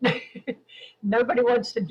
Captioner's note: laughing